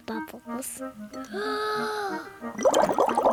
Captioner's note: takes big breath